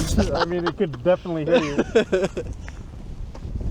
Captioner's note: laughs